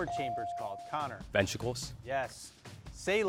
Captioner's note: bell dings